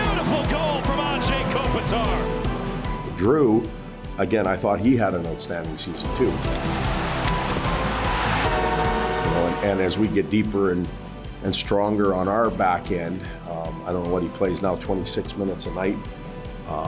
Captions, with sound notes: Beautiful goal from Anze Kopitar. - Drew, again, I thought he had an outstanding season, too. (horn sounding) And as we get deeper and stronger on our back end, I don't know what he plays now, 26 minutes a night?